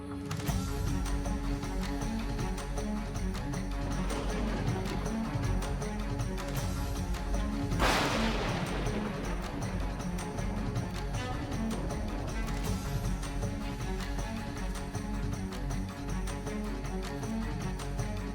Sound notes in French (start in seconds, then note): 4.1 le tonnerre s'écrase